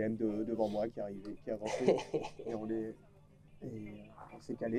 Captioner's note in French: rires du copain car c'est une situation trop nulle